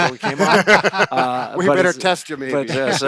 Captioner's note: laughing